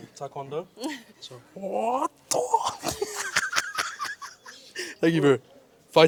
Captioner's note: laughs